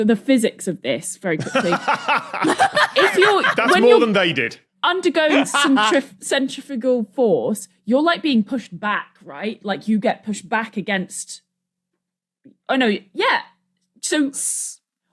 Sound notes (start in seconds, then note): 1.4 laughs heartily; 1.4 laughs uproariously